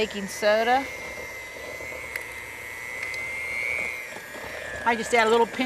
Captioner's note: whirring Sound